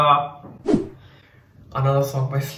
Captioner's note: swoosh